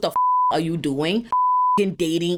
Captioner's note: beep